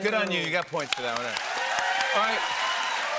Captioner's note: cheers and applause